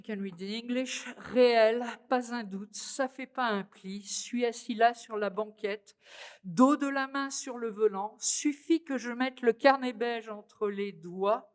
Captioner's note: french